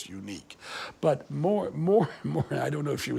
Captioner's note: chuckles